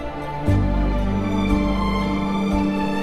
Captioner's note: none